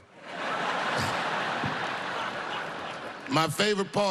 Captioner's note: laughter